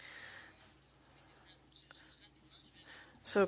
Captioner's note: speaking French